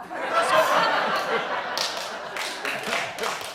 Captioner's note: laughter; laughter and applause